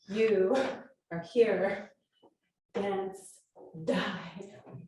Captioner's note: laughs